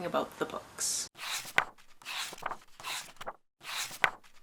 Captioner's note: pages turning